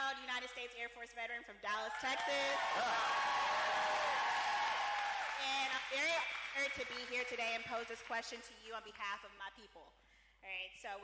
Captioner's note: cheering